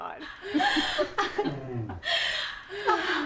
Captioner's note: chuckling